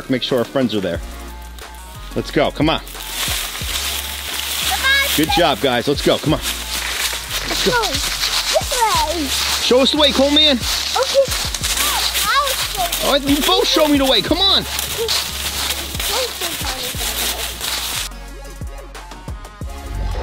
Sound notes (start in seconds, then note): 3.7 leaves rustle; 16.5 leaves rustle; 18.8 upbeat music